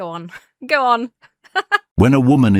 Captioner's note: laughs; AI Voice